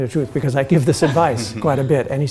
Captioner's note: laughter